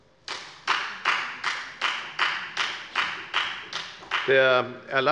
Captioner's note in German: Beifall bei der FDP